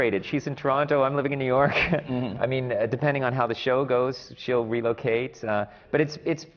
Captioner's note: laughs